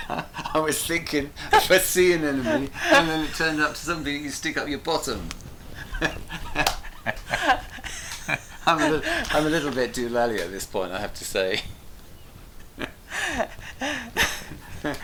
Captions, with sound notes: - I was thinking, what's the emeny, and then it turned out to be something you stick up your bottom (laughs). I'm a little bit doolally at this point I have to say.